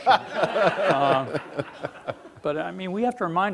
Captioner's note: laughing